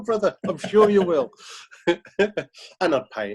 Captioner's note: laughing